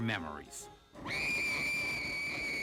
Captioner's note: fun Screams